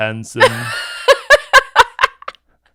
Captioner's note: laughs hysterically